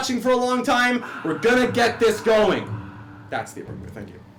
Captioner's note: mimics a crowd cheering